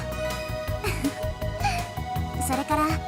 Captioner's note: giggle